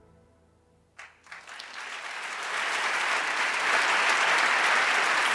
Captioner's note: the audience applauds